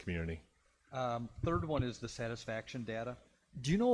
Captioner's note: pat